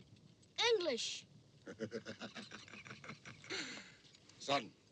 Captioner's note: auda laughs